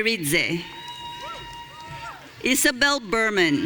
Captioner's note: audience cheering